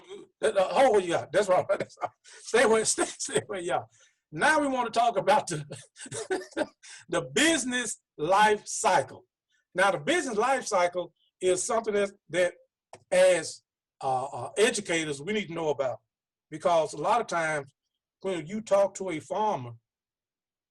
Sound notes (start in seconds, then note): 5.5 laughing